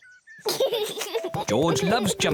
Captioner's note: giggles